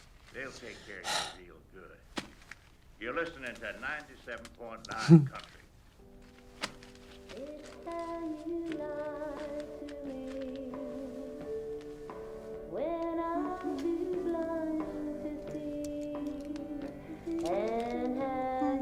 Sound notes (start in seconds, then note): 0.6 sighs; 7.5 country music